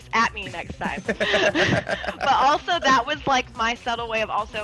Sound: laugh

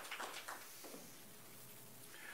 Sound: applause

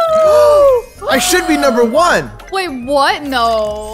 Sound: gasps

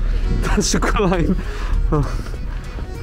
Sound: winds blowing upside down

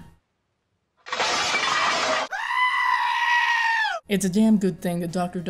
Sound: sheep screaming; pot clattering to the ground

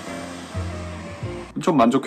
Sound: suddenly the sound of a car

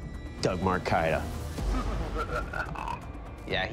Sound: maniacal laughter

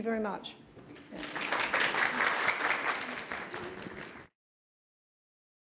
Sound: applause

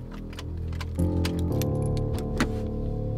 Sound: keys jangling

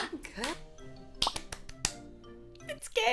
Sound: clapping

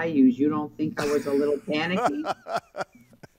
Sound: laughing

